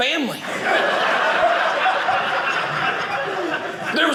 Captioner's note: audience laughing